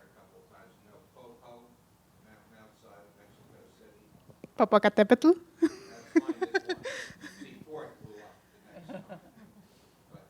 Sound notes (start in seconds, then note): 5.6 giggle